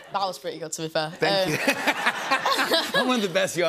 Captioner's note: laughter